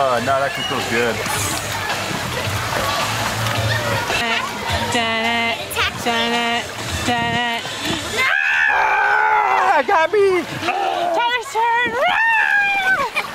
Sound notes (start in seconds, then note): 8.2 screams